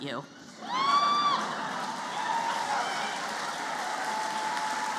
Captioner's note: cheering